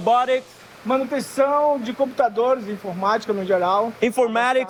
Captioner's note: non-english speech